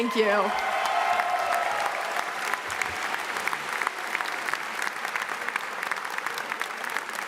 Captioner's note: audience cheers; audience applauds